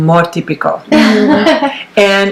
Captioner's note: laughs